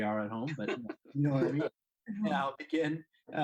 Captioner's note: laughing